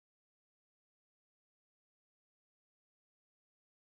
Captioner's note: none